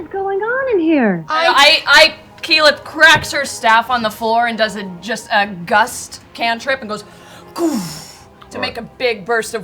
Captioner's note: whoosh